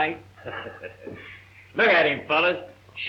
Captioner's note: laughing